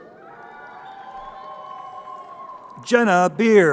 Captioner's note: crowd cheering